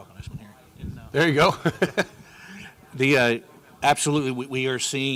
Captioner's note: laughs